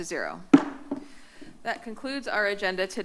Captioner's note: gavel tap